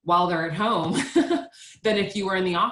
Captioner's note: giggles